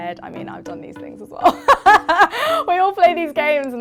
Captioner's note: laughs